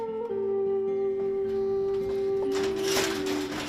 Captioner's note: sounds of metal gates clanging